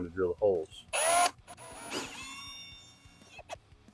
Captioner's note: drilling noises